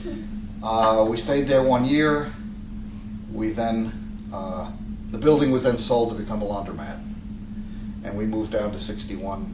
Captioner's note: laughter